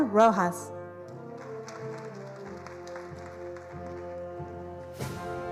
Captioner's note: attendees applauding